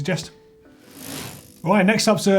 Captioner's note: mechanical whirring